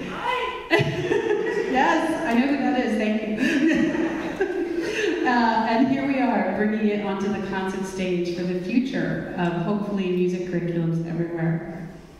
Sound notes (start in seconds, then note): 3.0 laughs; 3.3 audience laughs